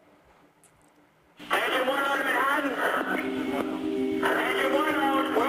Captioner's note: radio recording